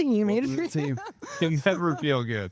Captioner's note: laughing